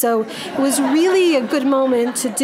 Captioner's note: audience laughing